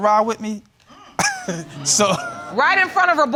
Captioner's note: audience member exclaims; chuckles